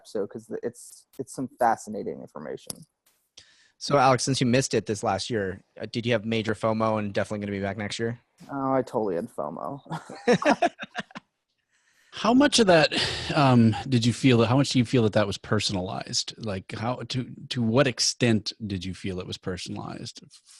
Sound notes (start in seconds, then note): 9.9 laughter